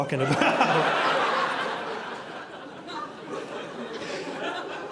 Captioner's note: audience laughing